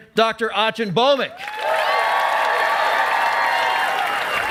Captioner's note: cheering and applause